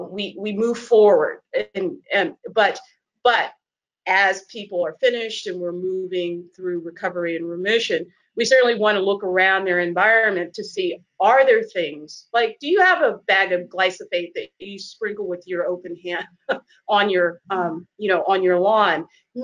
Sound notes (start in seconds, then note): 17.2 laughs